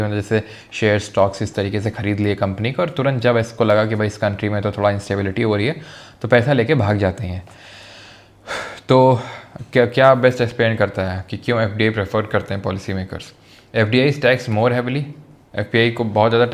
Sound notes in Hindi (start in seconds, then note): 7.5 गहरी सांस लेने की आवाज़; 7.5 अचानक ज़ोर से सांस लेने की आवाज़